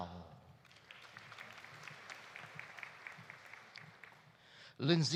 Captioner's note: audience applauding